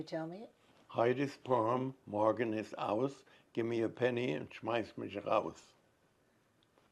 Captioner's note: german